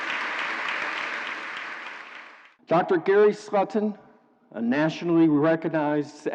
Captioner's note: applause